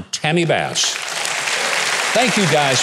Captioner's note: audience applauding